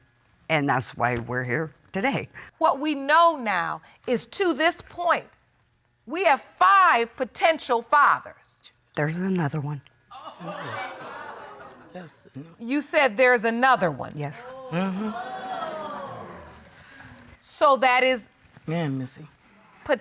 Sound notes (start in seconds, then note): 14.4 audience exclaims